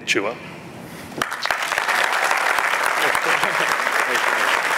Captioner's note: applause